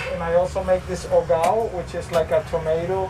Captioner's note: speaking foreign language